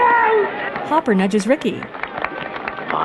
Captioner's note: sparse clapping